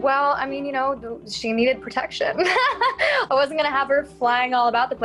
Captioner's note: laughs